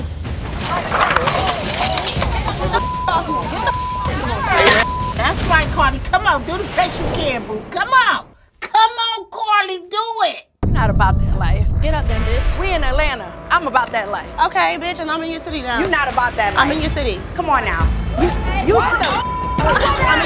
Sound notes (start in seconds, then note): 0.6 rustling; 2.6 beep; 19.0 beep; 19.3 shouting